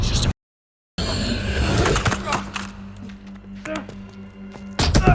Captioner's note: Jerry groans; Max growls; Jerry groans; boot thumps